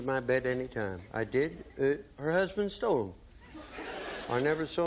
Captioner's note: laughter